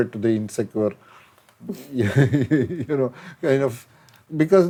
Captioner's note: laughs